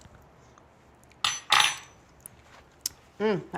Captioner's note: spoon clatters